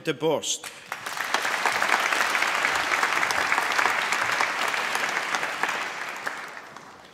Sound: applause

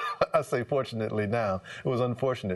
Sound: laughter

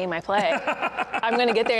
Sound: laughing

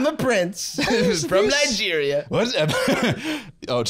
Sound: laughs

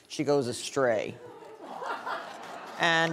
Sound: audience laughing

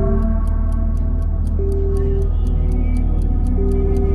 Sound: clock ticking

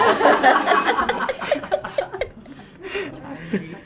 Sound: laughter

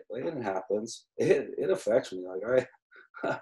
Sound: laughs

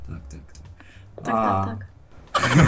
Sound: Polish

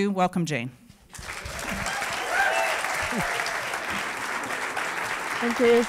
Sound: applause

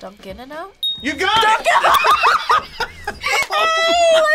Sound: laughs

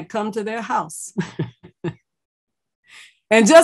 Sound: laughs

